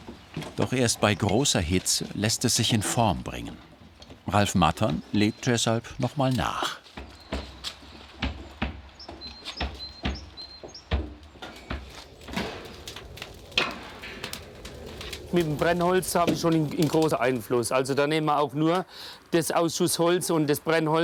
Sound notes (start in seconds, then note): 8.1 thuds